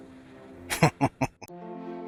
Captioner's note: chuckling